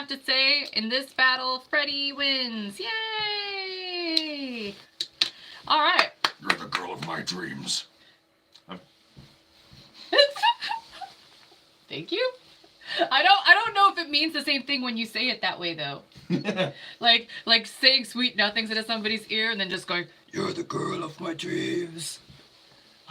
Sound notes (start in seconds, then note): 10.0 giggling; 16.3 laughing